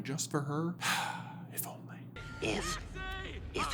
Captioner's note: sigh